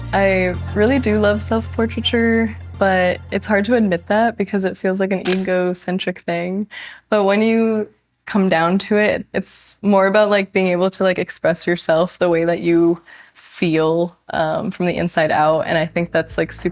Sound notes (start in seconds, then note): 5.2 shutter clicks